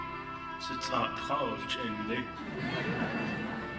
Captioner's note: speaking Navajo; laughing